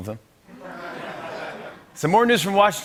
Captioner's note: laughter